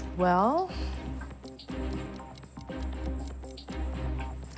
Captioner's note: watch ticking